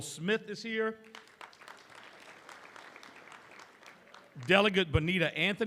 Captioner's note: applause